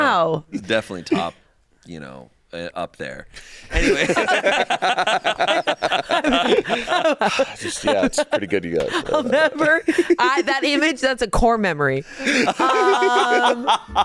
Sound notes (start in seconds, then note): 3.7 all laughing; 12.2 hosts laughing